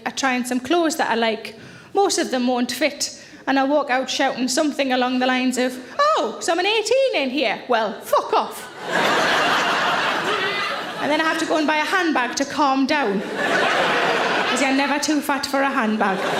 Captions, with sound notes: I try on some clothes that I like, most of them won't fit. And I walk out shouting something along the lines of, "Oh, someone 18 in here? Well fuck off." (audience laughs) And then I have to go and buy a handbag to calm down. (audience laughs) Because you are never too fat for a handbag.